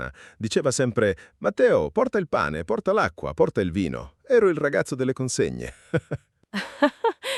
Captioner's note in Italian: risate